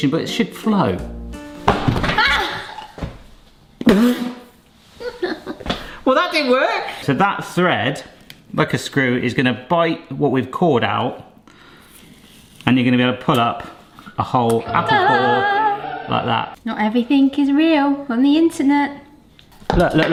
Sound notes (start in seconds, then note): 1.8 shouts; 5.0 laughs